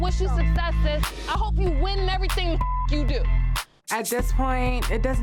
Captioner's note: beeps